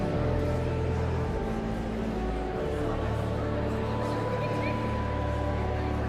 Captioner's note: joyful organ music continues; audience chattering continues